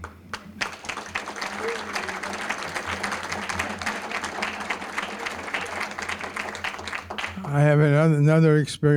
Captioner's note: applause